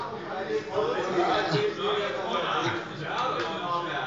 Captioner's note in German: Weitere Zurufe